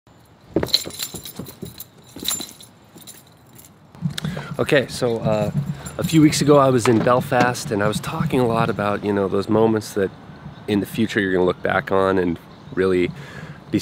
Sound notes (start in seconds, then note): 0.2 keys jangling; 0.4 footsteps